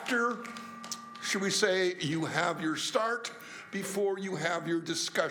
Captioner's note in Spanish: aplausos